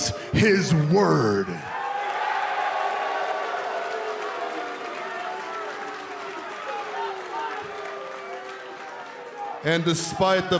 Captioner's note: crowd cheering